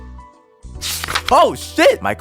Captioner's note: page flips